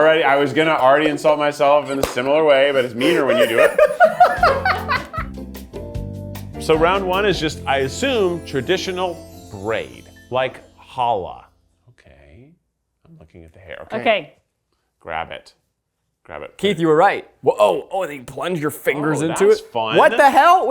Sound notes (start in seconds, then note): 2.6 laughs; 4.8 gentle music